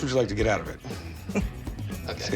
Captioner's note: chuckles